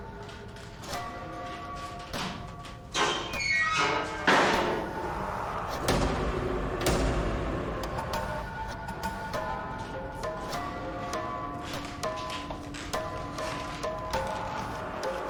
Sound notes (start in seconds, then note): 0.3 quiet tense music; 2.9 door squeaking; 6.4 lights thudding; 10.5 dramatic suspenseful music